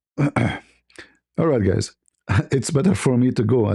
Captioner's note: clears throat